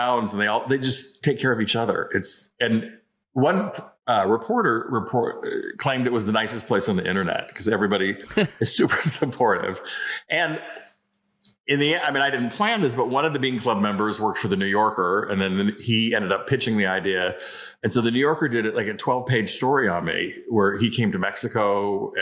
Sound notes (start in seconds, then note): 8.2 laughs